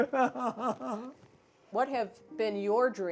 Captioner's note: laughs